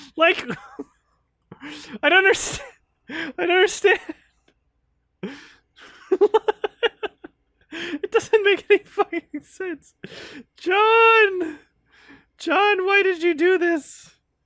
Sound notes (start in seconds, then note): 5.7 laughs